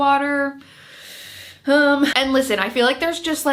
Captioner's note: sighs